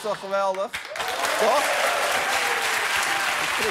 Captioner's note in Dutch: applaus